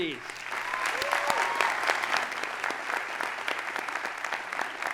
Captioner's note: audience applauding